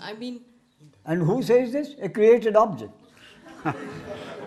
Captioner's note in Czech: smích